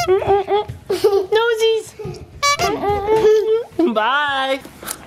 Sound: clown horn sound effect; clown horn sound effect

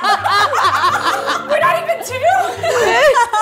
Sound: laughs

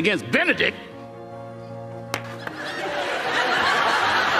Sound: audience laughs

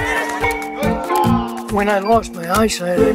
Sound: crowd cheering; bat clanging

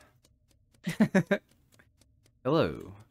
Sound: laughing

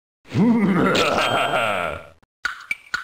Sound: PURPLE GLOP laughs

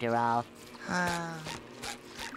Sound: sighing

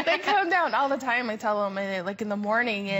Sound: laughter

